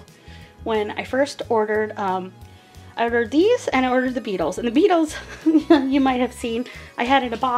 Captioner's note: laughing